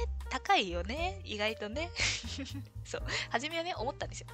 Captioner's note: laughs